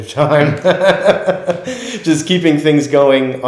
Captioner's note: laughter